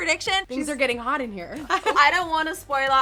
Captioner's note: chuckles